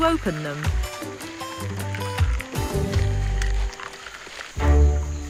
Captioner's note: Yoko husking coconut; bright upbeat music; intense music